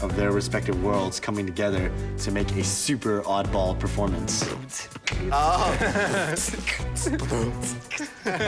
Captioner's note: dancing